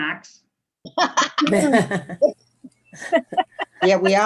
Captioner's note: people laughing